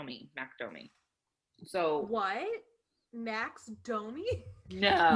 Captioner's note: sarcastically